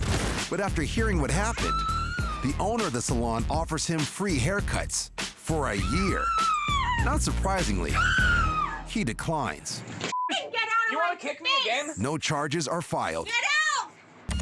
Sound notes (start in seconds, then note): 5.8 woman screaming dramatically